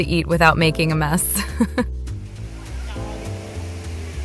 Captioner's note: haha